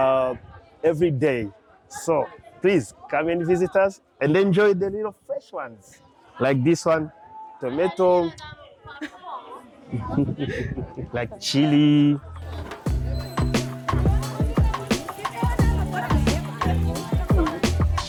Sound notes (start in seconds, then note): 8.9 laughing; 12.3 chill music